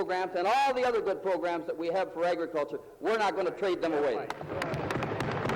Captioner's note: some Applause